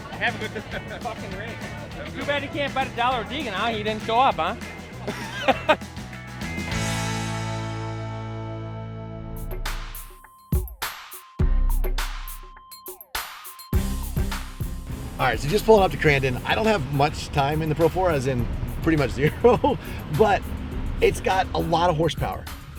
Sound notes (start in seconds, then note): 5.0 laughs